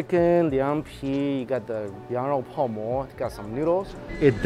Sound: speaking in Chinese

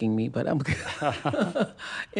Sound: laughter

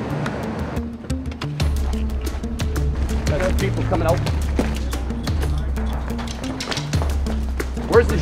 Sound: sounds of footsteps running, door banging, cars approaching; car stopping, door opening

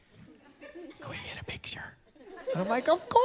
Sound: whispers

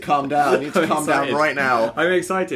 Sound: laughing

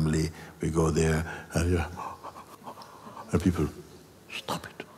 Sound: yawn

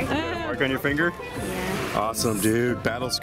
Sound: voiceover

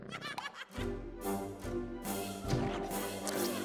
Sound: Grunch laughing

